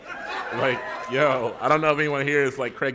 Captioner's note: laughter